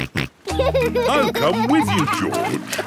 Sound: snorts and laughs

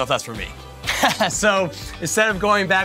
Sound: laughs

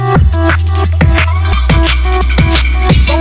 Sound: cool sounds

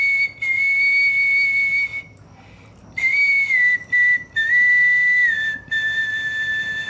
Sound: still whistling

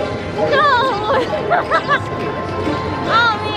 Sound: laughs

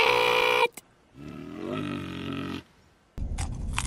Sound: growls

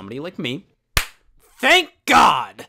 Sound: claps

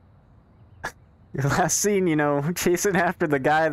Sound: laughs

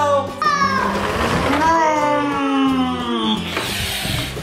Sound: mimicking plane engine

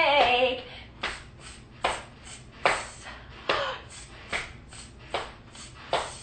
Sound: hissing; slapping

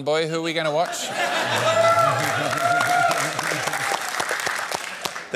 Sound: cheering, applause

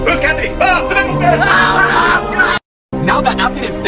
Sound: screaming

